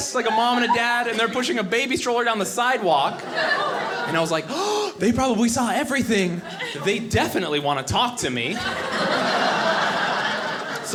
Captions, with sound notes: like a mom and a dad. They're pushing a baby stroller down the sidewalk. And I was like (gasping), they probably saw everything. They definitely wanna talk to me. (audience laughing)